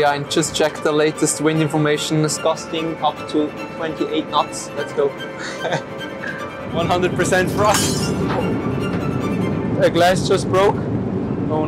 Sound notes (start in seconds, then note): 5.3 chuckling; 7.6 glass smashing; 8.7 dramatic music; 9.7 engine humming